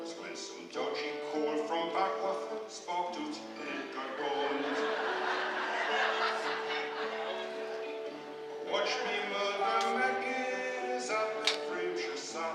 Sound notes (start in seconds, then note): 5.6 laughter